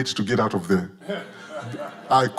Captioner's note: audience laughing